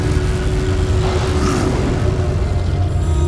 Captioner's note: guttural roar